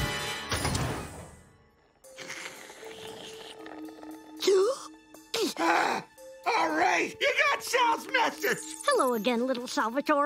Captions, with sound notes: [gasping] All right. You got Sal's Message. Hello again, little Salvador.